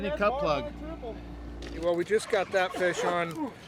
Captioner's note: background chatter; boat engine running